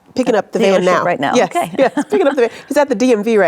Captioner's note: laughs